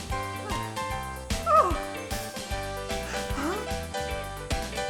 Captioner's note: מלכה ממלמלת